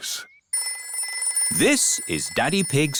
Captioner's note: phone rings